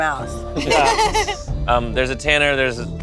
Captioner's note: giggles